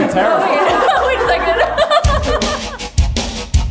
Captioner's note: Cameron laughs